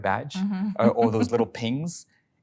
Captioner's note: laughing